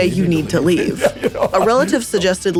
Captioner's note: laughing